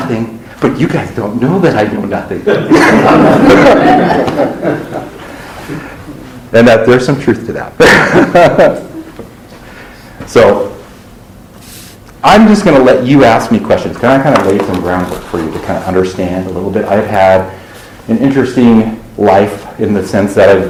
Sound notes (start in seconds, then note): 2.4 laughter; 7.8 laughs